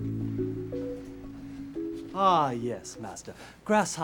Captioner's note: chinese accent